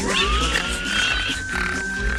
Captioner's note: Buddy squealing